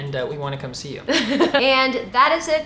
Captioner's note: laughs